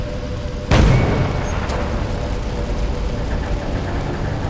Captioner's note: roaring flames; explosion